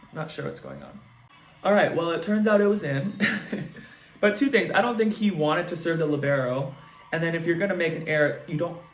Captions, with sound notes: Not sure what's going on. All right. Well, it turns out it was in. (laughs) But two things, I don't think he wanted to serve the libero, and then if you're gonna make an air, you don't